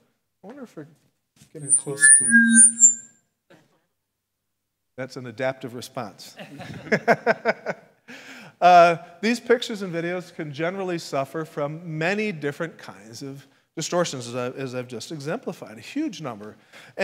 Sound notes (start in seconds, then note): 1.6 microphone feedback; 6.4 laughs